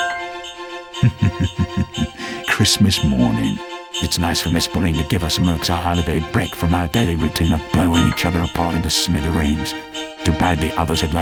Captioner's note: chuckles